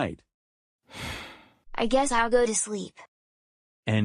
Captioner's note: sighs